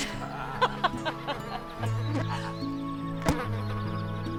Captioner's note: both laughing